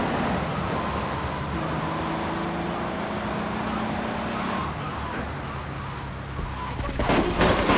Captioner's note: gun firing; horn honking